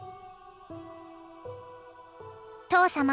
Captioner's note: silence; silence